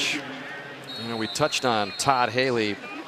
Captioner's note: pa announcement